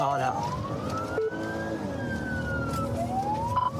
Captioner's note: siren blares